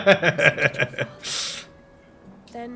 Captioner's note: laughs